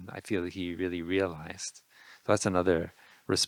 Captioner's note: none